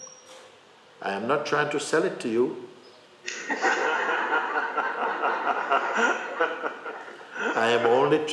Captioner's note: laughter